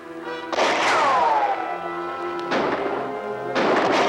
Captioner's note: guns firing